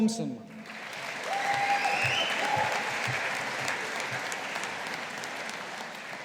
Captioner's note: audience applauding